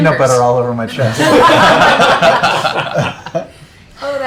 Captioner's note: laughs